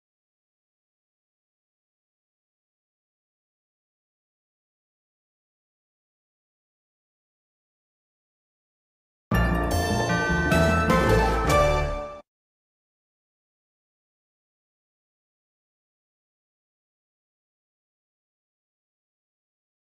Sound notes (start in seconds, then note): 0.1 silence; 9.3 upbeat orchestral music; 12.5 silence